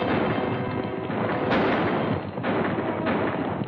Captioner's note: gunshots and horse trotting